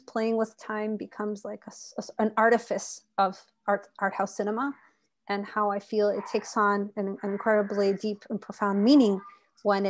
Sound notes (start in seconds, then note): 6.9 speaking Spanish